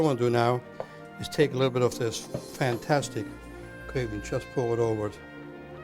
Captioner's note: none